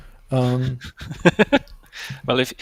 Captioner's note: laughing